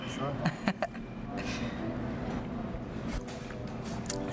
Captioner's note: chuckling